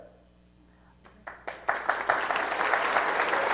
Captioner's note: applause